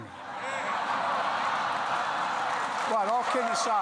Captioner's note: laughter and applause